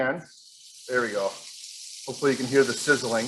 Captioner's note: oil sizzling